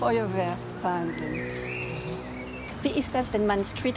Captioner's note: birds chirping